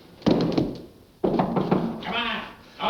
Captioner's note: clunking; knocking